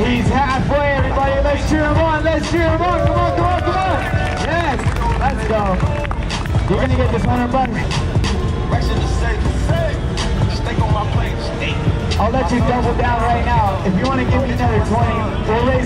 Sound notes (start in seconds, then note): 4.3 crowd cheering; 10.2 hip-hop music